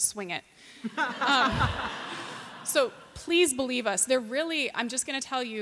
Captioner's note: laughter